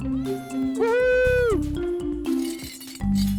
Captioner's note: all cheering